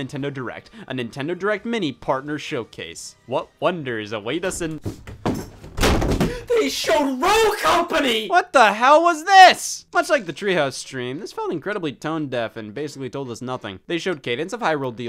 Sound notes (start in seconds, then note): 5.2 door slamming